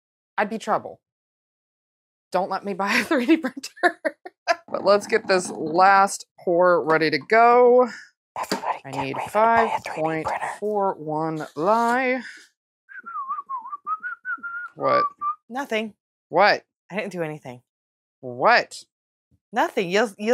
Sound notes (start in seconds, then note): 12.9 the most innocent whistling